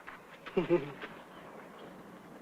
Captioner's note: laugh